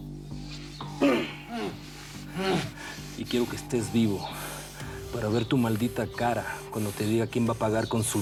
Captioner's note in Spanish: Gemidos de Alejandro